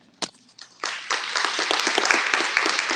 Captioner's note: applause